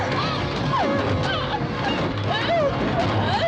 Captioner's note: whimpering